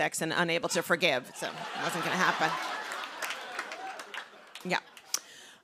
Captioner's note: laughter